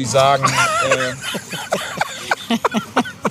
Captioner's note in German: beide lachen